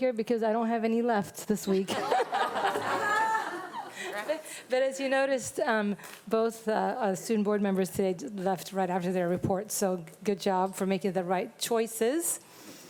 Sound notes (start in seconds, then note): 1.8 audience laughing